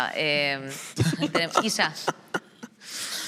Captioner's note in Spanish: algunos ríen